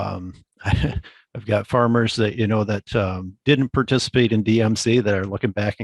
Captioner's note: chuckles